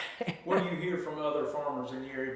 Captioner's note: chuckles